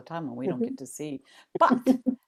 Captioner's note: laughter